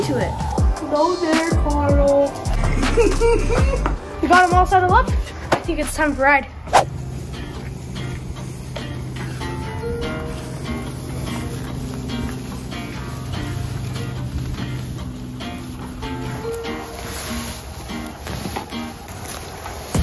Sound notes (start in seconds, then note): 0.0 upbeat music; 2.5 laugh; 6.3 upbeat music; 16.1 hay rustling